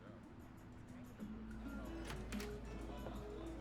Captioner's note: door opens